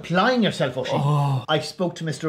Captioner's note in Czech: povzdechne si